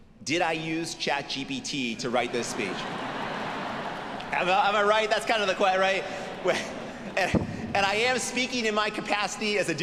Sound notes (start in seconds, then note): 2.0 audience laughing